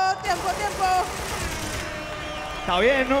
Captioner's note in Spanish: Aplausos